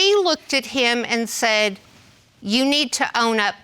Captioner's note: none